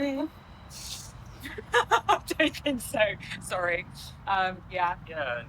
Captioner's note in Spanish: risas